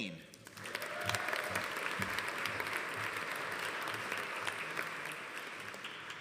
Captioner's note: audience applauding; audience cheering